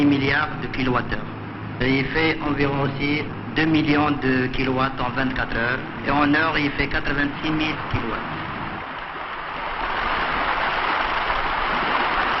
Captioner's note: applause